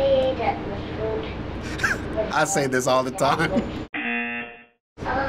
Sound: buzzer

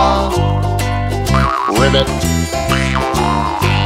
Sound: sproing! ribbit!

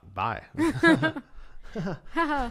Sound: laughter

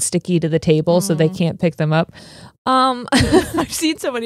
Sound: laughs

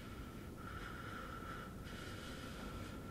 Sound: breathing heavily

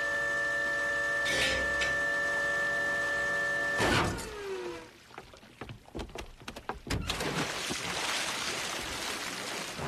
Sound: crane whirring

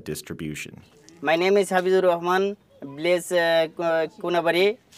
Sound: non-english speech

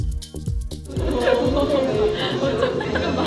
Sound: members burst out laughing while monitoring photos

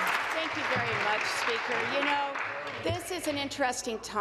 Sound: applause

